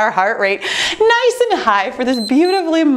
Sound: timer beeps

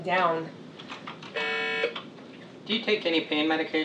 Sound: machine beeps

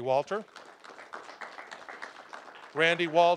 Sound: applause

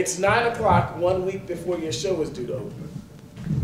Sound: none

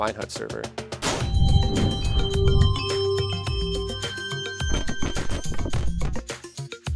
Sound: chiming sounds

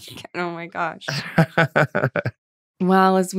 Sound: laughs

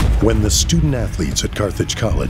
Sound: voiceover

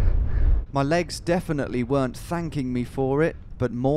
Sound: voiceover

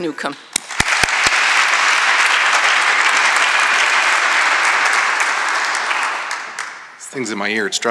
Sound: applause

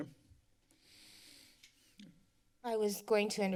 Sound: rustling sound

